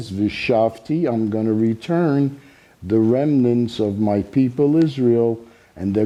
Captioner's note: speaking Hebrew